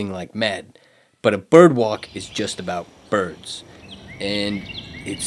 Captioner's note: birds singing